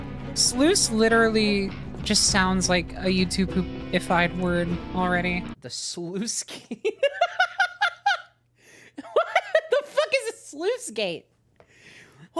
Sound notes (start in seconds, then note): 6.5 laughter